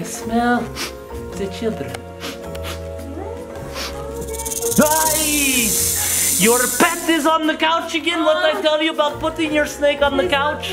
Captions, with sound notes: - I smell the children. - Where are they? (snake hissing) - Ai! Your pet is on the couch again. What I tell you about putting your snake on the couch?